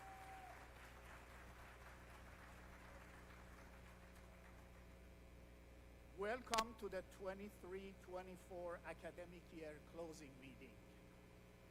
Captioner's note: applause